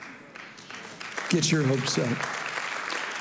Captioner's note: congregation applauding